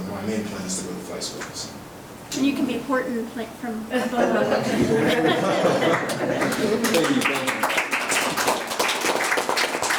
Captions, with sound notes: But my main plan is to go to flight school. - And you can be Horton, like from the book. (attendees laughing) (applauding) - Thank you, thank you.